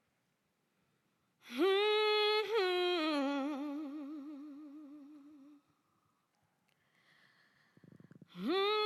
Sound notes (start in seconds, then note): 1.4 humming